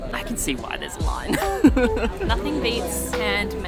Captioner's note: laughs